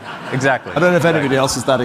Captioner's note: audience laughing